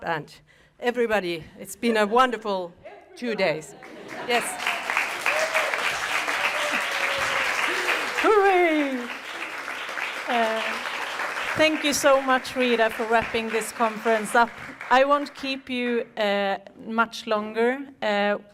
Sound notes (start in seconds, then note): 7.1 applause